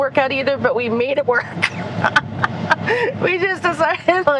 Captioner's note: laughing